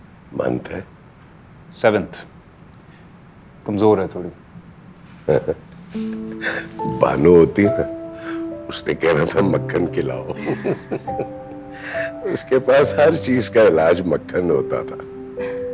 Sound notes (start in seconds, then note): 5.2 chuckles; 10.1 laughs